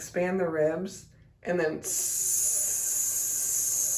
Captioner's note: hisses